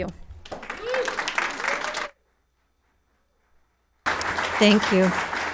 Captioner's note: audience clapping hands